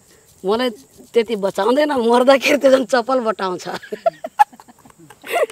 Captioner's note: everyone laughing; laughing